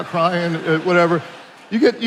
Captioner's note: attendees laughing